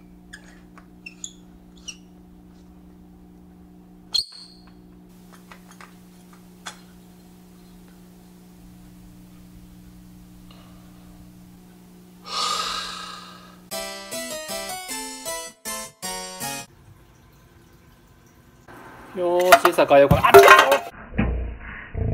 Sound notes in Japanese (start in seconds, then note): 3.3 折れた音; 12.2 溜め息